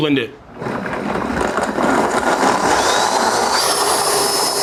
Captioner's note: blender whirring